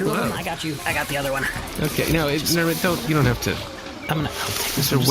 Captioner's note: straining